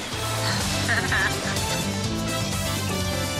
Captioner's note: laughs